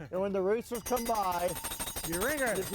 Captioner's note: bell ringing